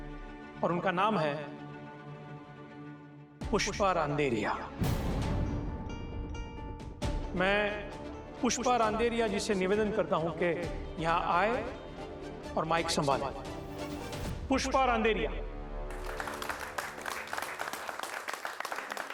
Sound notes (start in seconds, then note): 15.9 clapping